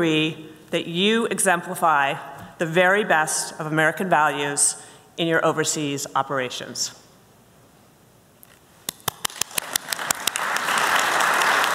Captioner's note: applause